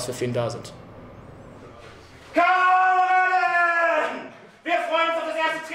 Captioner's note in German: schreit